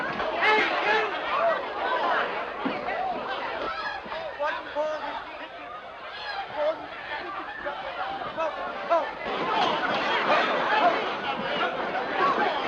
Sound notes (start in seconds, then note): none